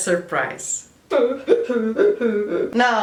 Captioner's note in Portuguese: choro